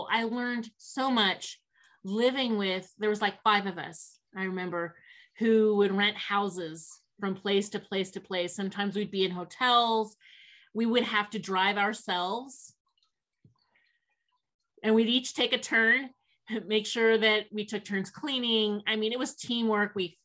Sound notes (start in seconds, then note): none